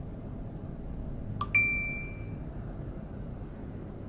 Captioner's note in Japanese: 通知音